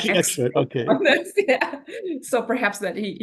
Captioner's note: laughs